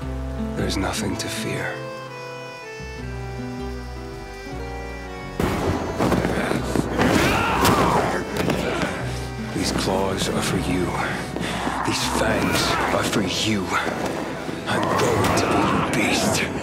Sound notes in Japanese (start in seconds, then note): 5.4 雷鳴